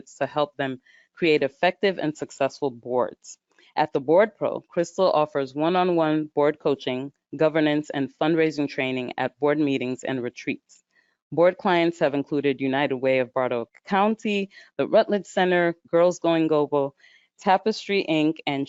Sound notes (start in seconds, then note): none